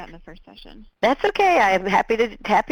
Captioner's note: voiceover